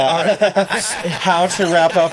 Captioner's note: laughing